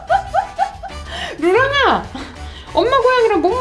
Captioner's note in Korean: 웃음 소리; 웃음